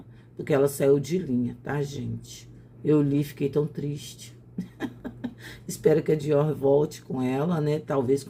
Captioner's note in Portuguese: risadas